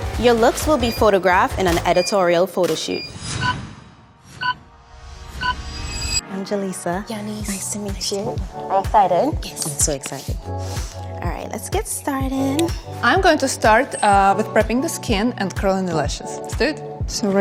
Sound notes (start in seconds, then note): 3.4 timer counting down